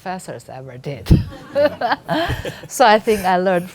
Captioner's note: laughing